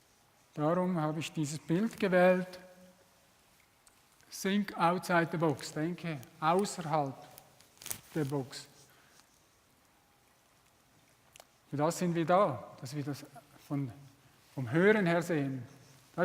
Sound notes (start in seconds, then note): 8.6 repeated in German